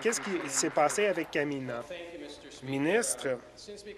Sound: applause

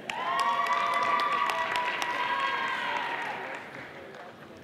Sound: audience applauding

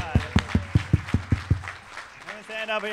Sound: applause

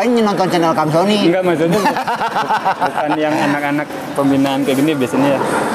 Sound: laughs

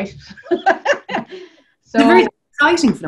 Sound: laughs

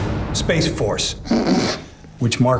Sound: laughs

